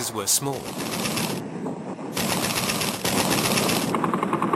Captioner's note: artillery firing